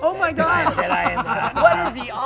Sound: laughter

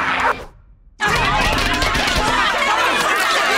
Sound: yelling

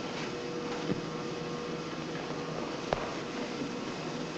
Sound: machinery whirring

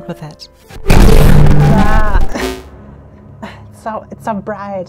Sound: crashing sound

